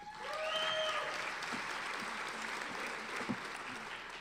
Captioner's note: applauding